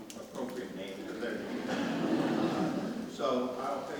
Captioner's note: audience laughs